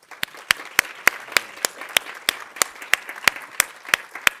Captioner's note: audience applauding